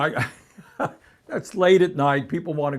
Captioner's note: laughter